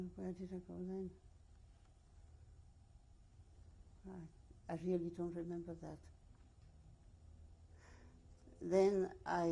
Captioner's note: pauses for 3 seconds